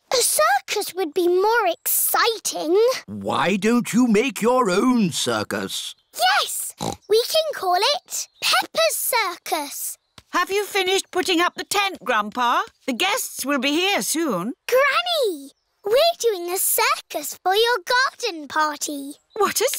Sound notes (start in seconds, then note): 6.7 snorts